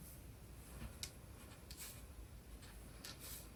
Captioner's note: drawing cards